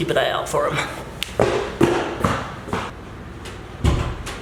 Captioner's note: footsteps